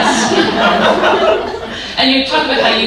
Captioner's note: audience laughing